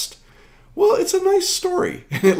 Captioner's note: laughing